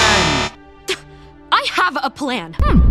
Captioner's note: scoffs